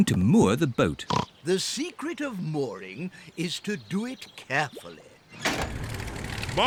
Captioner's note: oinks